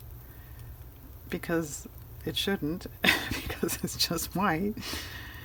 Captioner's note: laughs